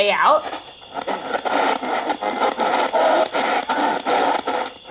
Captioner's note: static crackling